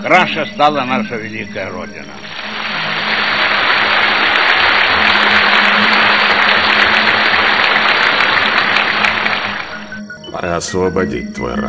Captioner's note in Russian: аплодисменты